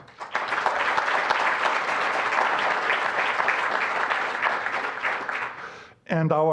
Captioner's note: applause